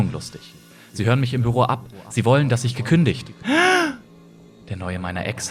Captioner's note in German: panischer Atemzug